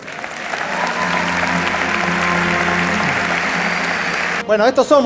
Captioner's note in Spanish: Aplausos